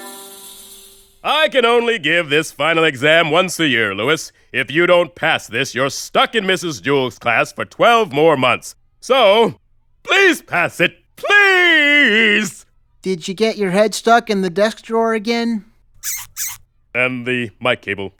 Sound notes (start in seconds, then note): none